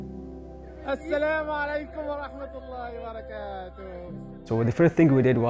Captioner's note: arabic speaking